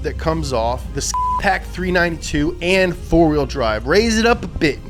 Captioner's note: beep